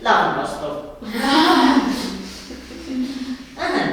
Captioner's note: laughing